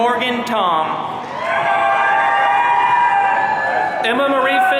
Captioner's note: audience cheering